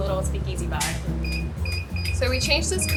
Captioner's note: machine beeping